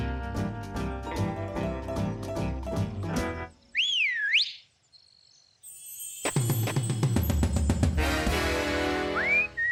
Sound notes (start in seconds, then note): 3.7 whistle; 5.2 sultry music; 9.0 whistles